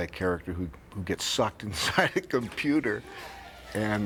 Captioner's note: laughing